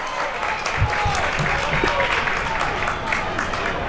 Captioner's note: crowd applauds